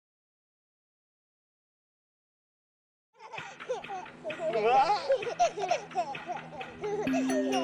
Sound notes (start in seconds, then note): 4.4 laughing